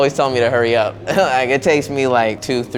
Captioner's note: laughing